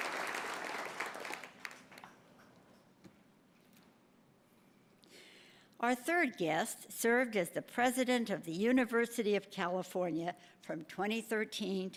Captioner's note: applause